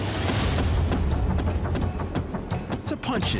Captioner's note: continuous thuds